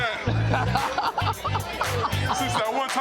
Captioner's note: laughing